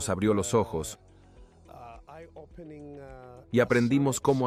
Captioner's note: Hablando idioma extranjero